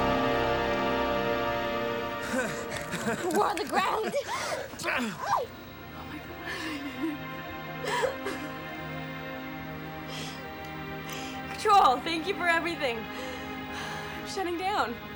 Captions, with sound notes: (David laughs) - We're on the ground! - Oh my God! Control, thank you for everything. I'm shutting down.